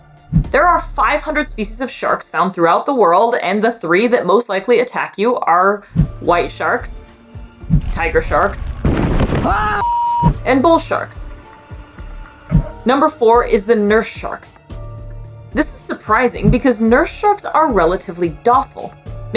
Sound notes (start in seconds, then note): 7.0 background music; 7.8 loud crashing noise; 9.4 person screaming; 9.8 beep noise; 11.5 background music; 14.6 background music